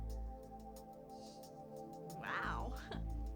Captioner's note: laughs